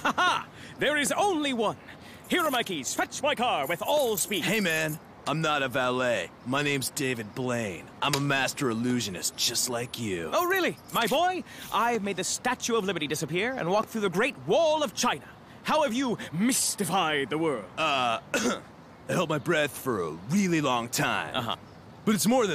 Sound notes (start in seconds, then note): 18.0 coughs